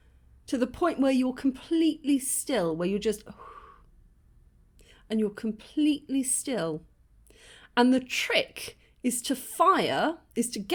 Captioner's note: exhale